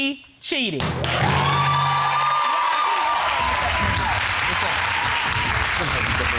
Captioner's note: audience applauding